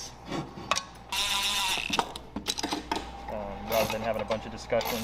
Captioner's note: electric drill whirls